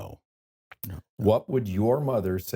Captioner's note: laughs